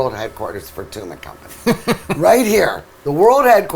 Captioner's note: laughing